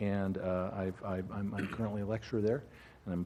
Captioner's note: cough